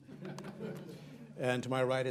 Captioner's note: laughter